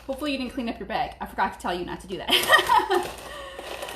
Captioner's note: laughing